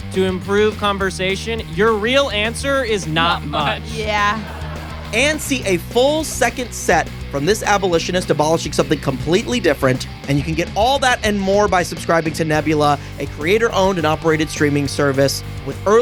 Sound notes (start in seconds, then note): 3.2 audience laughs and jeers